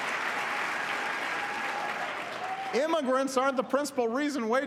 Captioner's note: applause